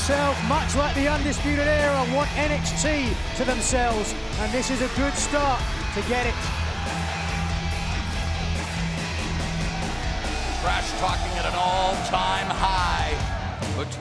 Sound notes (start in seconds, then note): 7.5 energetic rock music; 7.5 fans cheering